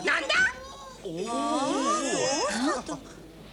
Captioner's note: everyone gasps